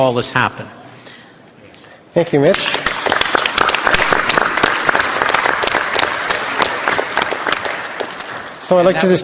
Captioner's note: applause